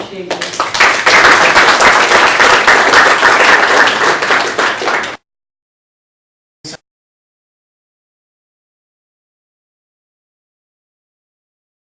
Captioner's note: applause